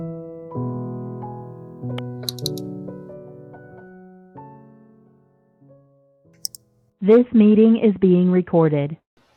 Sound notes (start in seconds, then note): 2.2 mouse double click; 6.4 mouse single click; 7.1 automated voice